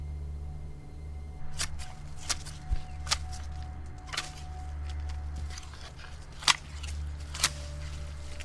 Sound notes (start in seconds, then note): 1.4 leaves rustling; 1.4 shear snipping